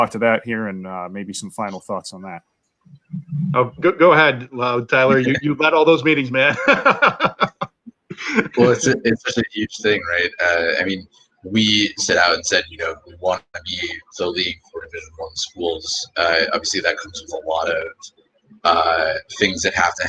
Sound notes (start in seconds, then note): 6.4 laughter